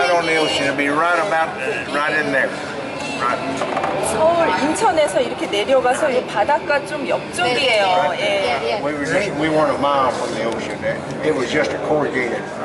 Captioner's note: koreans talking